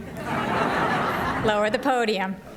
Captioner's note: laughter